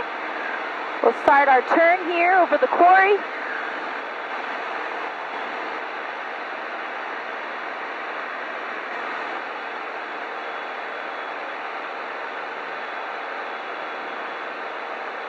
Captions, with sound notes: Okay, we'll start our turn here, over the quarry. (propeller humming)